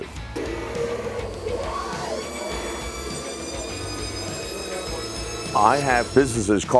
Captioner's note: machine running